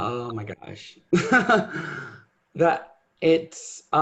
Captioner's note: laughs